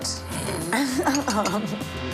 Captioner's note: chuckles